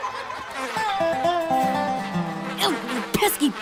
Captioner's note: kids laughing and playing; flies buzzing